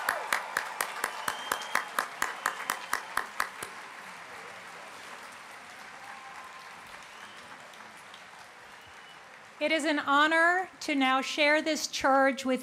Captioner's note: applause